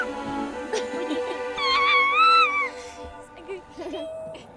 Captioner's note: baby squeals